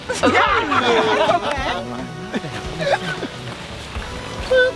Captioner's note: campers chuckling